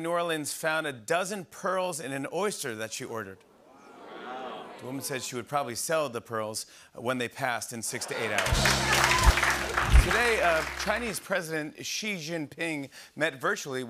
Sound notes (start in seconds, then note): 4.0 audience murmurs